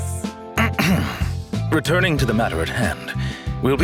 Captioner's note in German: räusper